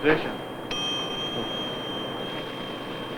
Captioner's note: bell ringing